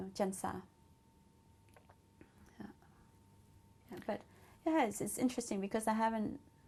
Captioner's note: pauses for 3 seconds